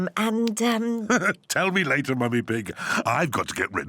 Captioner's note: laughs